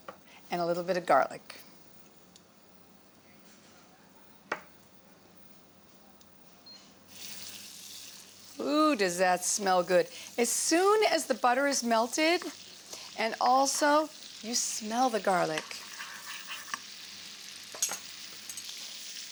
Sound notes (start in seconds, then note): 5.9 beeps; 6.9 sizzling